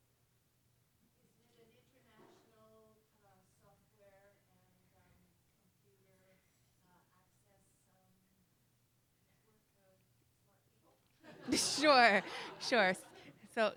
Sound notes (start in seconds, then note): 1.7 voiceover; 11.2 crowd laughs